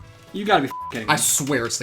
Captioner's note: beeps